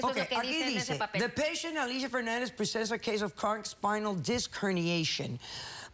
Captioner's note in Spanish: doctora lee en inglés